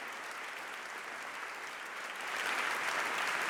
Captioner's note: applause